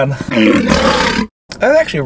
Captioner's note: lion roars